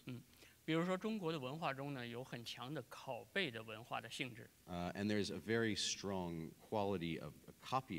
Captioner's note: speaking in Chinese